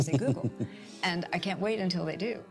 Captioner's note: laughs